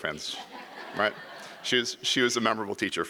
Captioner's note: audience laughs